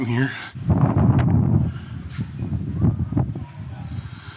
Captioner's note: wind blowing